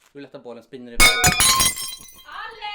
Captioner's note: krasch